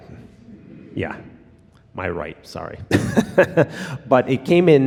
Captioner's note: laughs